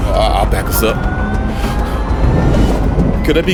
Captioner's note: sub whirring